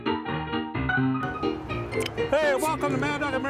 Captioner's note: bottle-cap opening